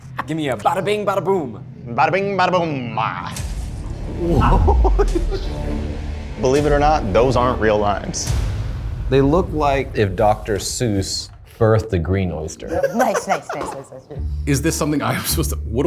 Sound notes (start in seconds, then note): 0.0 all chuckle; 12.6 laughs